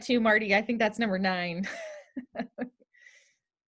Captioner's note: laughter